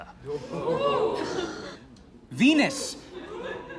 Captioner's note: crowd